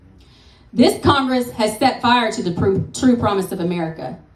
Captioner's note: none